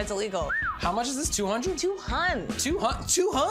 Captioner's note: whistles